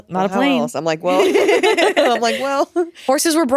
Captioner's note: all laughing